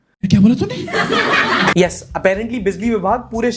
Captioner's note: laughter